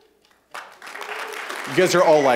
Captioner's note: cheers, applause